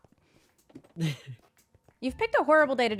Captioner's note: laughs